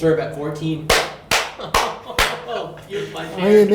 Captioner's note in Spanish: aplaude